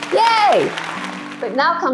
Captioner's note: people applauding